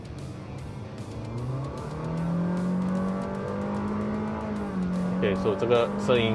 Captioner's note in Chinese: 引擎 + CVT 愤怒咆哮-ing